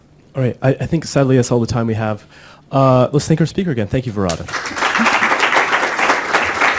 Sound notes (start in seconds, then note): 4.4 applause